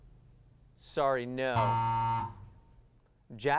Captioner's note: buzz